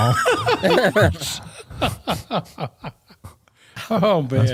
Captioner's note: laughter